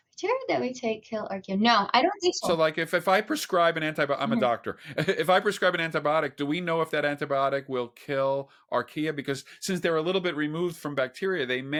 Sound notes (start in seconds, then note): 5.1 chuckles